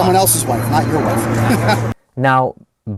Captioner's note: laughing